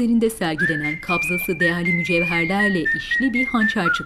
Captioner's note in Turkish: Islıkla şarkı sesi